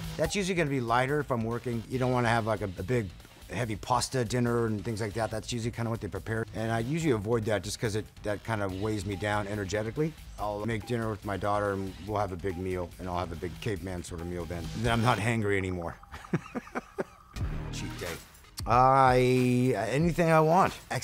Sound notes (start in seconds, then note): 16.0 laughs